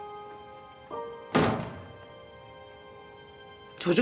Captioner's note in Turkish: Bahar kapıyı çarptı